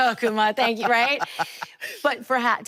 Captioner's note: Enuka laughing